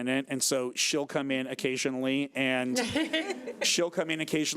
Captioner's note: chuckling